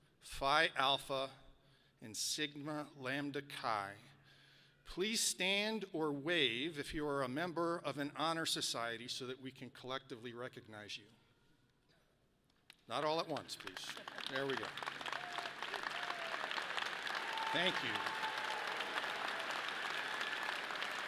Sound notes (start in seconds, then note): 15.8 audience applauds; 18.3 people cheer